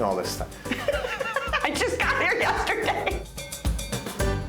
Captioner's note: laughing